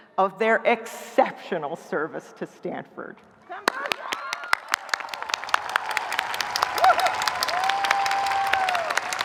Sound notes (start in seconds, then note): 3.6 audience applauding; 4.0 audience cheering